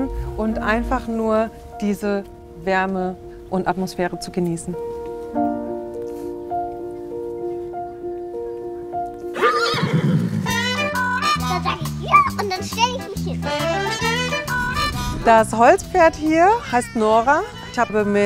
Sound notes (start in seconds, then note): 5.2 emotional piano music; 9.2 neighing, playful music